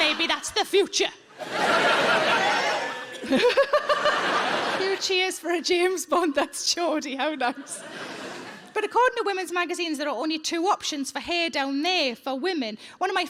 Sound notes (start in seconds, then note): 1.5 audience cheering